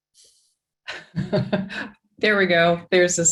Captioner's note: laughs